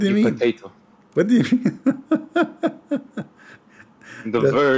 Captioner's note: Ketawa